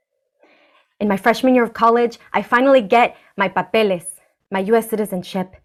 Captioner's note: spanish